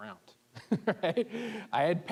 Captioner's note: laughing